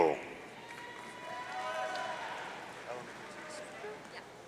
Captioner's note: audience cheering